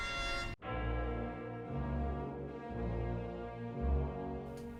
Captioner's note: church bells toll